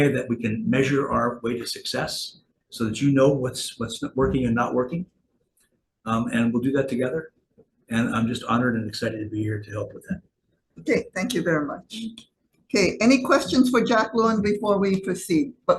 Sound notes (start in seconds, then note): none